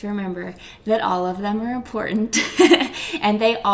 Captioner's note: laughs